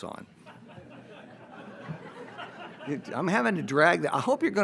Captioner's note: audience laughs